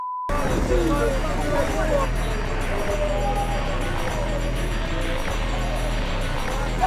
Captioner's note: gangsters clamoring; intense music